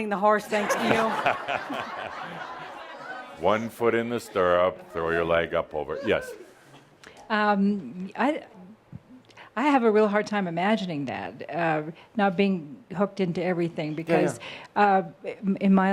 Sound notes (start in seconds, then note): 0.5 laughter; 3.3 chuckling